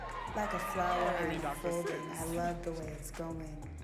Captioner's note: audience cheers